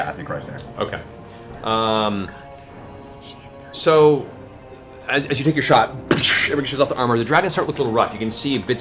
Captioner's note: gunshot